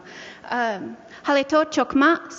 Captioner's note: speaking Indigenous language